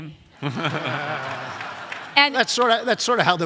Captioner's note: audience laughs